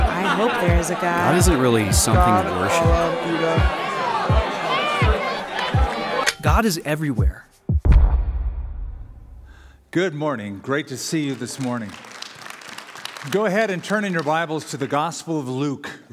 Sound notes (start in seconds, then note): 11.0 applause